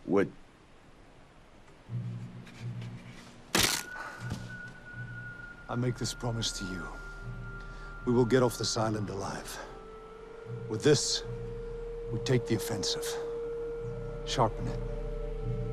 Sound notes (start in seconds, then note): 3.5 stick cracking; 3.7 eerie music